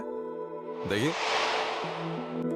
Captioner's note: speaking in foreign language